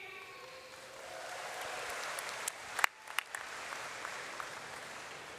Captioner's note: audience cheers and applauds